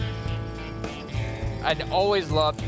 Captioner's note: chains jingling